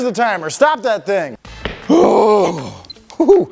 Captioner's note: exhales deeply